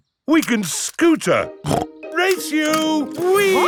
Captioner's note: snorts